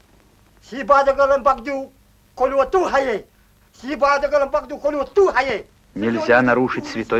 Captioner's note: speaking Udegei